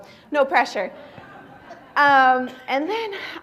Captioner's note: laughter